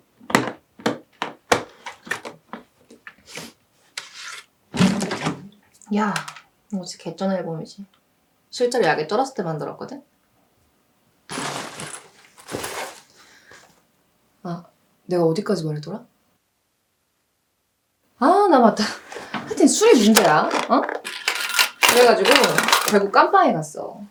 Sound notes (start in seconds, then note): 0.1 rustling sound; 11.3 rustling sound